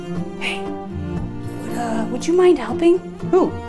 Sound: whispering

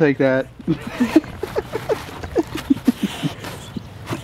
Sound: laughs

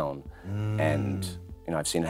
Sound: sighs

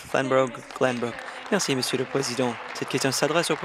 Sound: applause

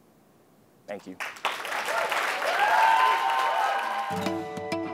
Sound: applause

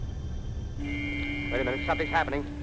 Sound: siren

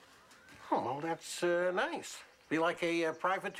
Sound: none

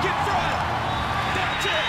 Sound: whistle blows

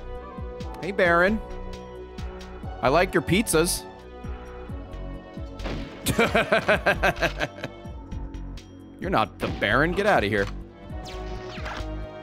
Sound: laughs

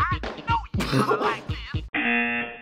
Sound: laughs

